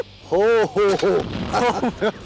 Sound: fires

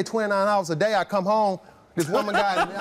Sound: Steve laughs

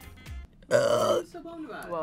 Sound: burps

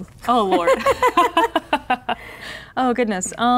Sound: laughing

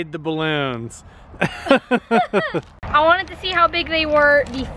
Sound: laughs

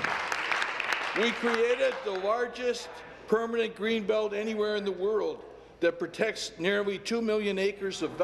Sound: applause

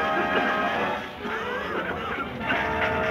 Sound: men coughing

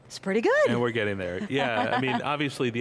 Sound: laughs

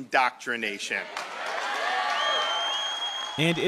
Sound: cheering and applause

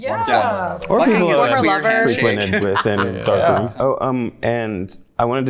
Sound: overlapping chatter

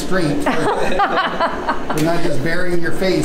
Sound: laughing

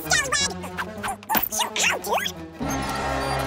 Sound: speaking fast forward

